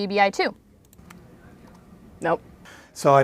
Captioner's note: typing